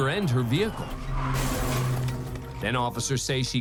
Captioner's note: tires screech